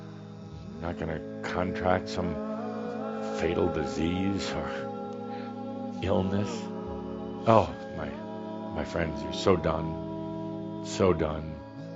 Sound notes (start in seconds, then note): none